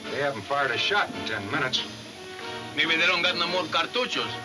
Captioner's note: speaks in foreign language